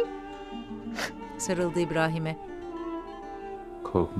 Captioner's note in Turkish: Ağlama sesi